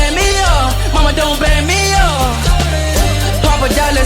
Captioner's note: glug glug